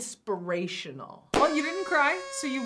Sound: party horn blows

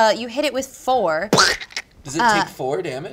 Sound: he squawks

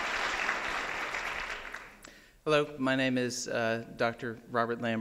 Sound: applause

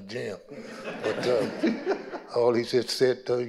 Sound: audience laughing

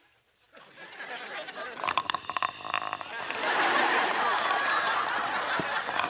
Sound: slurping

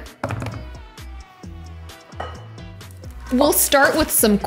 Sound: hands tap

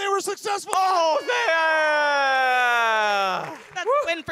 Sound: enthusiastic cheers; audience applaud

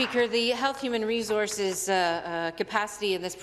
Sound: applause

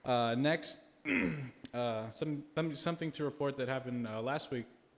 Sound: clears throat

